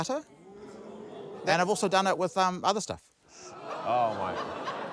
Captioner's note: audience groans